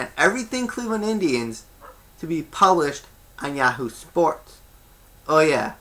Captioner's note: dog barks